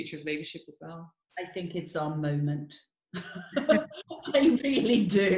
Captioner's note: laughs